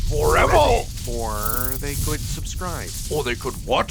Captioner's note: powerful magics crackle